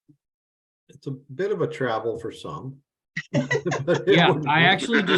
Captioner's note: chuckles